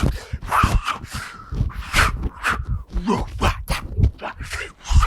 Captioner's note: continues to pant loudly